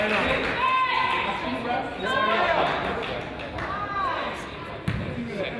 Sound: coach yells

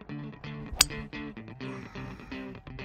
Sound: ping!

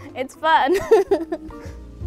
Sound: laughs

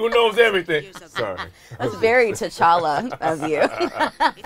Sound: laughing; laughs

